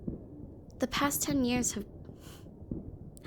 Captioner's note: none